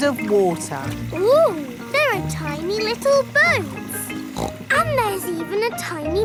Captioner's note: snorts